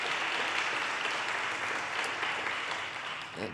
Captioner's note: audience applause